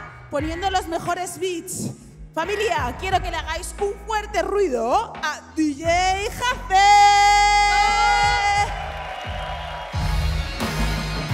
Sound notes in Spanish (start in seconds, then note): 8.1 Aplausos